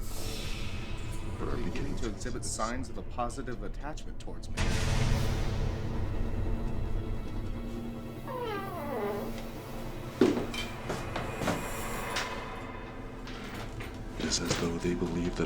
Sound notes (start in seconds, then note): 4.3 dramatic music; 8.1 door creaking